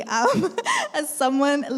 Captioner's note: laughs